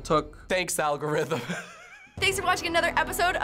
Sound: snickering

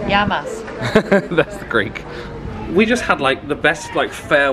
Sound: laughs

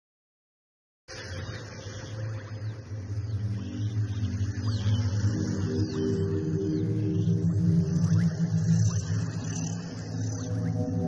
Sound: sound of mystical forest

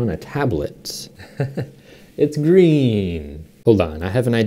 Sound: laughs

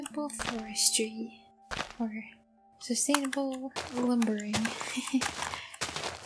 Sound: giggle

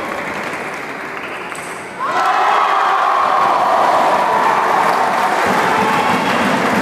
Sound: applause

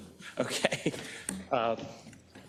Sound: laugh

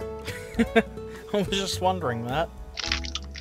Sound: laughter

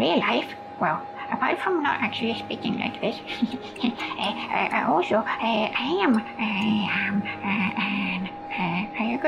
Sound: chuckles

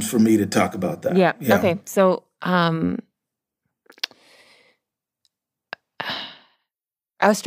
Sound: sighs

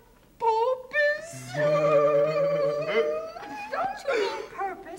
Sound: laughing

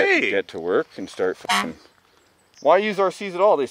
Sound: horn honks

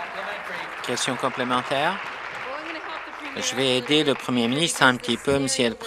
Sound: applause

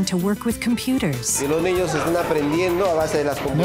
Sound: speaking spanish

